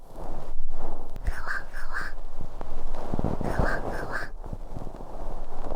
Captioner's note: soft fluffy sounds